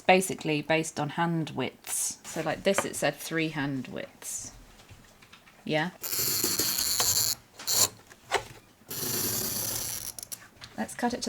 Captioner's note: chalk marker clicking